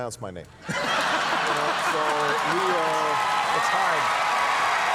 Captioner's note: audience laughing